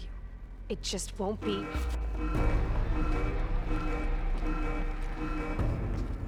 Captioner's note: alarm